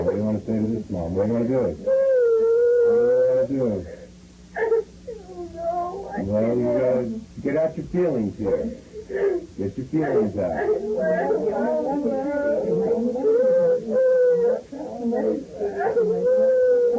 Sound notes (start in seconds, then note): 2.2 child whimpering; 4.5 sobs; 11.2 child weeping